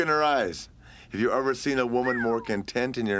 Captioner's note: Curt whistles